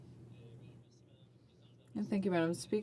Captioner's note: speaking French